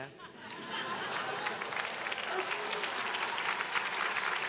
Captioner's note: crowd clapping